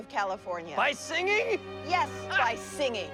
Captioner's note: laughs